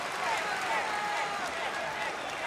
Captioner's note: crowd cheering; crowd chatter